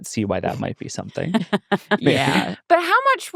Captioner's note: laughing